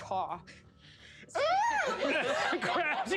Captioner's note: shrieks